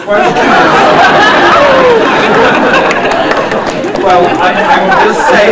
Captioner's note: laughter